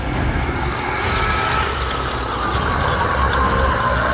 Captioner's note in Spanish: música de suspenso; el demonio ruge